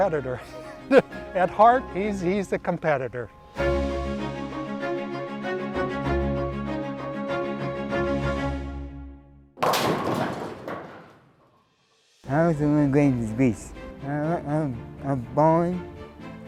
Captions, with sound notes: He's just a competitor. (laughs) At heart, he's a competitor. (upbeat orchestral music) (bowling pins clang) - I went to World Games in Greece. I was bowling.